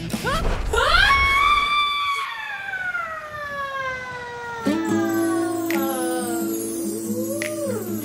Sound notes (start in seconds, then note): 0.8 long scream; 4.5 peaceful music